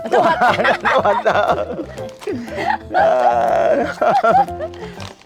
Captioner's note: both laughing